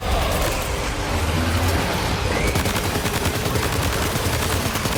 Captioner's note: gunfire echoing